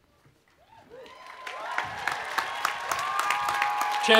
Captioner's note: cheering and Applause